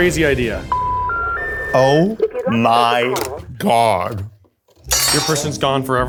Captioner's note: phone beeps